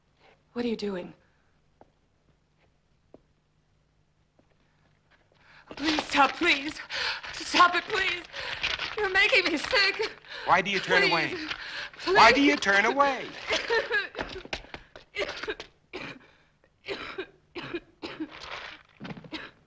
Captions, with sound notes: - What are you doing? Please, stop, please! Stop it, please! You're making me sick. - Why do you turn away? - Please! - Why do you turn away? (Ruth coughing)